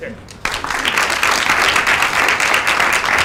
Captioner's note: applause